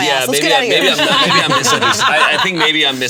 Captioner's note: all laughing